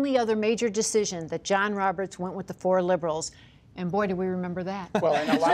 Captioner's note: laughter